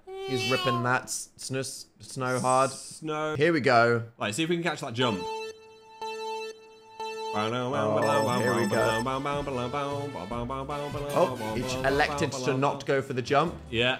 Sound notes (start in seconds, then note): 5.9 Mario Kart countdown plays; 9.3 sings a sporty song